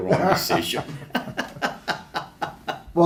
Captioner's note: still laughing